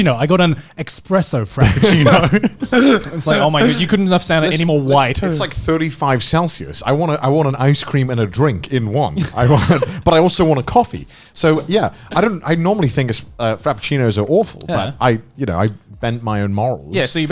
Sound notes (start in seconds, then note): 1.6 Conner and Joey laughing